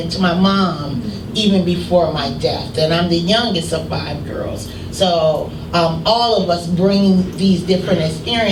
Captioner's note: none